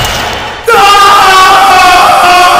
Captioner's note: Veer screams